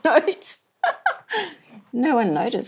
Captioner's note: laughs